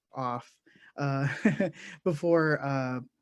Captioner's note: laughs